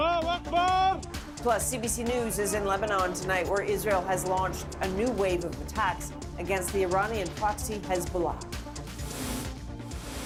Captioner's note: speaking alternate language